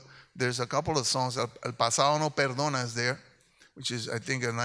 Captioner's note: speaks in Spanish